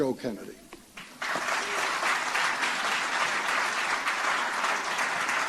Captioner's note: applause